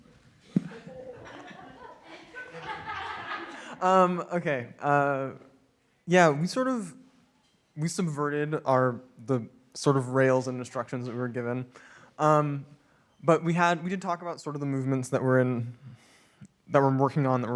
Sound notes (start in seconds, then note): 0.5 audience laughing